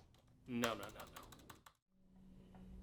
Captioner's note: keyboard clicking